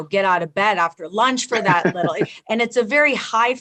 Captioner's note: laughs